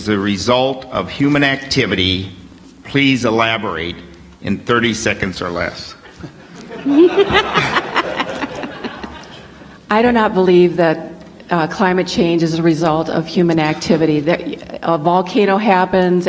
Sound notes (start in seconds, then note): 8.9 laughter